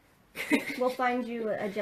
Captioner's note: laughs